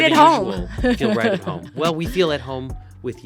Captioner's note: laughing